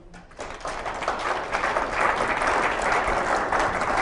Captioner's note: applause